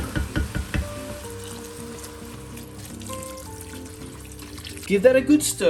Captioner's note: dull metal hit; pouring liquid